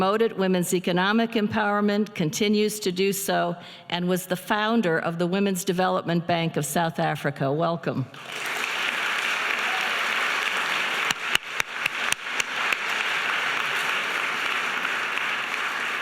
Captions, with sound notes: women's economic empowerment, continues to do so, and was the founder of the Women's Development Bank of South Africa. Welcome. (audience applauding)